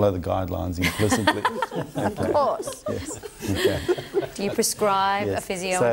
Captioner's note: all laugh